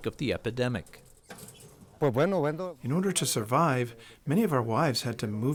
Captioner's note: through translator